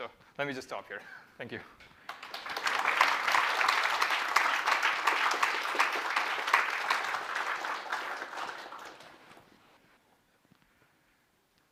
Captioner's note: applause